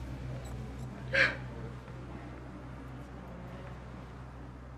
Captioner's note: Janie sobbing